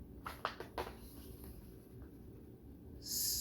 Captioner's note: paper rustles